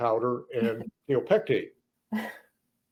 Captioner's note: stoner laughs